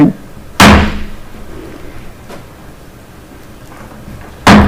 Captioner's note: gavel bangs